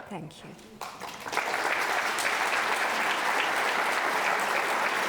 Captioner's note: audience applauds